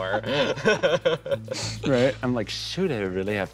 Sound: laughs

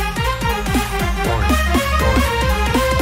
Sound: SFX: "Boing. Boing."

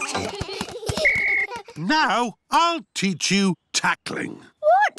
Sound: blows whistle

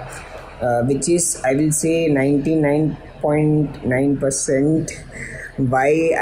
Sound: chuckles

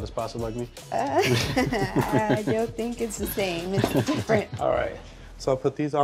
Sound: laughing

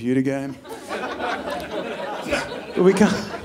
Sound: audience laughing

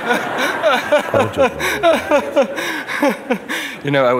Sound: laughter

